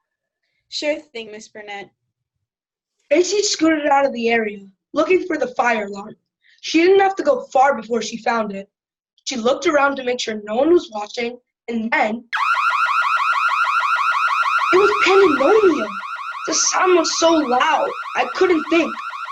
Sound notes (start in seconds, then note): 12.3 alarm sounds